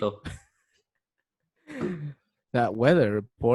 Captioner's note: chuckles